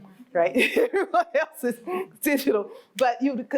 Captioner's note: laughs